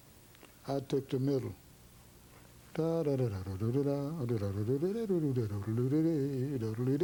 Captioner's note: humms